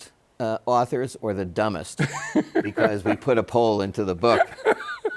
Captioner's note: Bob laughs